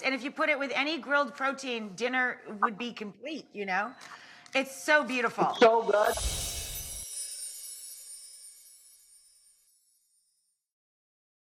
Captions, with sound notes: and if you put it with any grilled protein, dinner would be complete. It's so beautiful! It's so good! (glittery sound effects)